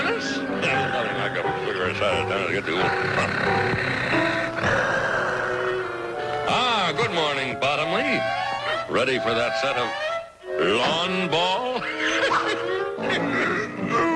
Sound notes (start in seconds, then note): 3.7 Mister Magoo muttering; 6.0 Bottomley snoring